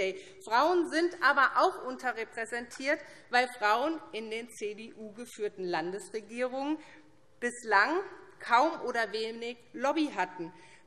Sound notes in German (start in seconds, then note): none